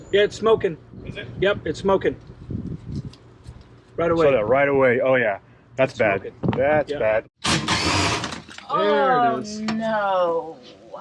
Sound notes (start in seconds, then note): 7.4 drill whirring